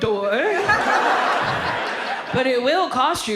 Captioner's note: audience laughs